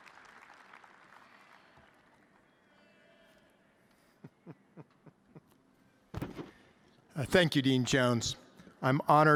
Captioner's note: chuckles